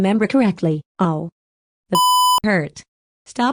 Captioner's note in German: Piep